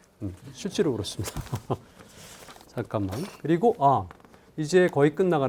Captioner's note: speaking in Korean